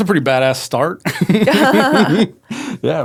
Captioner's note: both laughing